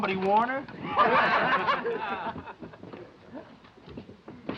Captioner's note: men laughing